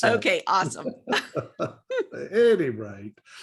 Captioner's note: laughing